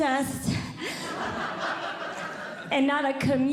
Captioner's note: audience Laughing